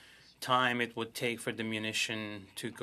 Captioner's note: speaking French